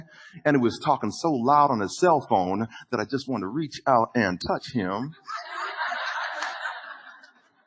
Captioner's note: audience laughter